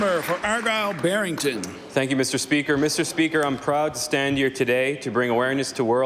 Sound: applause

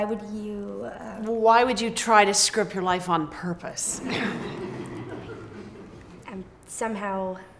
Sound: general laughter

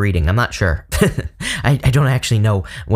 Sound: chuckles

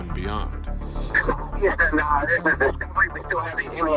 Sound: man op radio spreekt

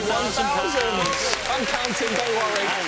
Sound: cheering

